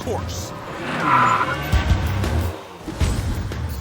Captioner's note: tires screech